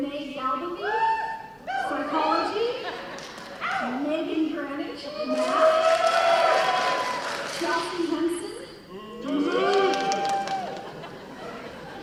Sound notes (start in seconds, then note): 2.5 cheering; 5.2 cheers and applause; 9.0 booing; 9.4 laughing